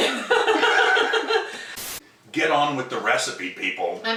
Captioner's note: laughing